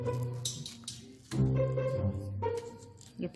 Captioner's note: slice